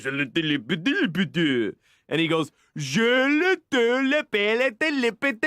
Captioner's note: French; enunciating french